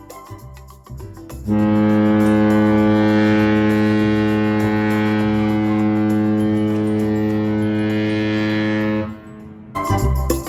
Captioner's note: loud ship horn